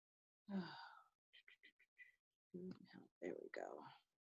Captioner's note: sighs